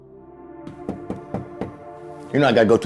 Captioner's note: knocking door